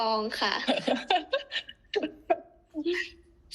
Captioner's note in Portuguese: risadas